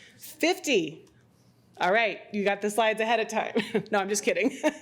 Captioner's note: laughs